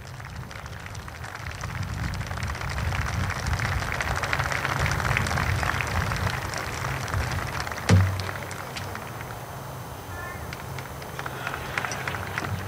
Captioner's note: group claps